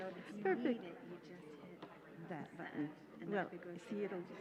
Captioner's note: murmuring